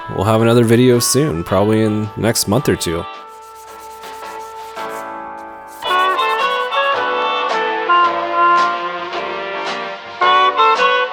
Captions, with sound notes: we'll have another video soon, probably in, next month or two. (scrubbing) (relaxing jazz music)